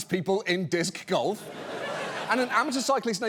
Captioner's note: audience laughing